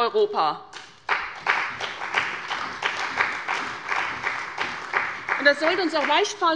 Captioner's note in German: Beifall bei der CDU und dem BÜNDNIS 90/DIE GRÜNEN